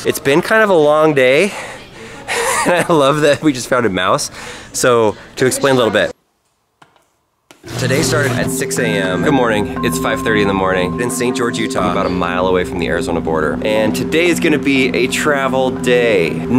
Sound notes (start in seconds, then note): 2.2 laughs